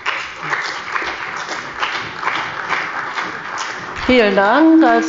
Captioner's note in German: Beifall bei der CDU und dem BÜNDNIS 90/DIE GRÜNEN